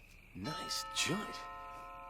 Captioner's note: crickets chirping; doorbell rings